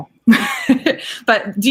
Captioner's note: laughing